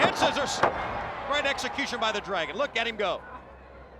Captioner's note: crowd cheering